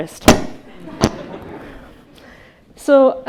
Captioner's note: attendees chuckling